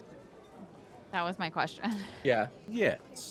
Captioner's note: chuckles